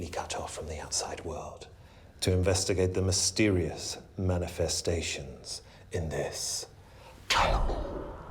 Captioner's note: demon voice